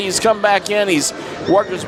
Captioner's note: none